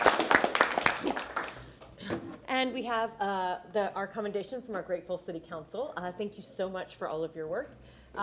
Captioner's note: applause